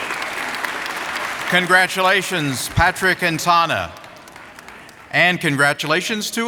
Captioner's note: applause